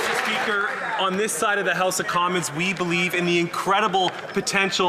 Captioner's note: some Applause